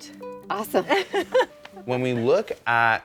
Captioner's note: laughing